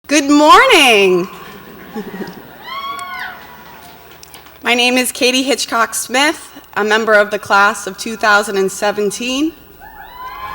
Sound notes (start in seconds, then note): 1.3 laughs; 1.6 audience cheers and applauds